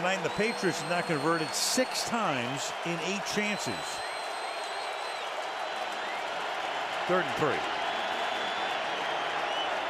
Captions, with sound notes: Until tonight, the Patriots have now converted 6 times in 8 chances. [cheering, whistling] Third and 3.